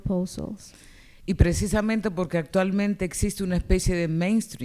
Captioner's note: speaking spanish